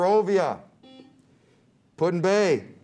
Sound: buzzer beeps

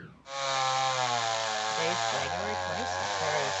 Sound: saw buzzing

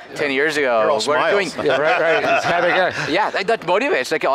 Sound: laughter

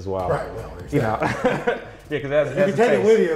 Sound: laughs

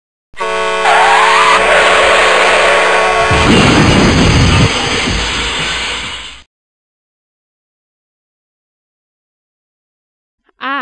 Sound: truck Crash

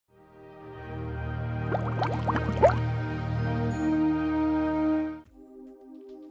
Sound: beaker bubbles up

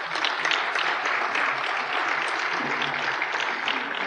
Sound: applause

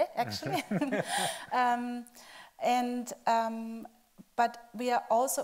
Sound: chuckling

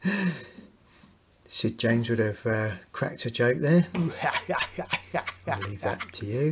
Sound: Sid James laugh

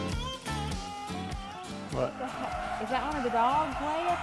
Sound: dogs barking

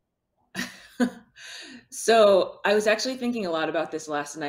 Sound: chuckles

